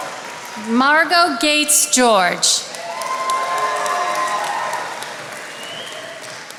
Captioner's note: attendees applauding